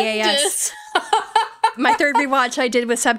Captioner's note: laughing